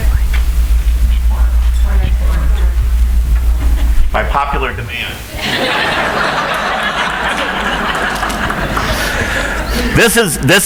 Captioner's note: audience laughs